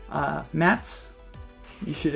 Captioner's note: laughter